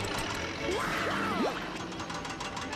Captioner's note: yelling